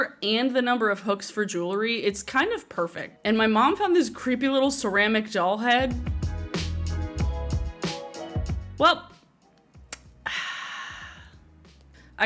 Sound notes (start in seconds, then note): 10.2 sighs